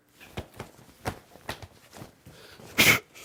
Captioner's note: pole thuds; exhales and efforts